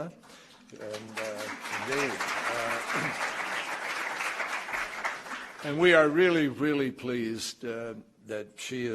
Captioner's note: applause